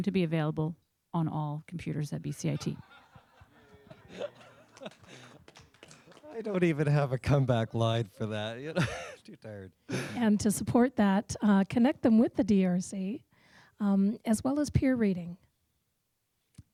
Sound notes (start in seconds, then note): 2.6 laughter and applause; 11.0 voiceover